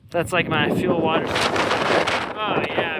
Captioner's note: wind